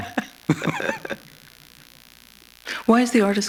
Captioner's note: laughter